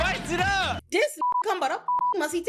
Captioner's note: beep